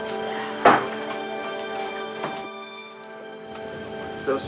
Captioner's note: door thuds